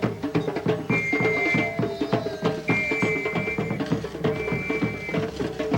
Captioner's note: people cheering